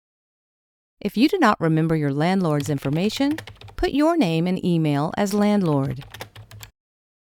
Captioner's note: typing